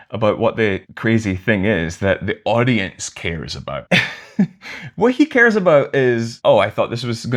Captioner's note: laughter